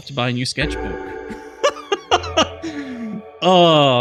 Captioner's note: laughs